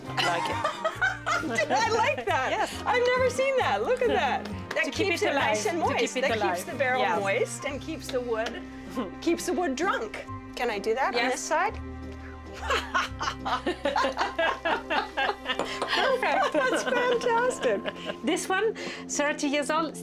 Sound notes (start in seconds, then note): 12.5 both laugh